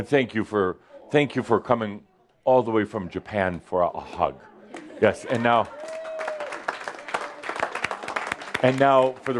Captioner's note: more applause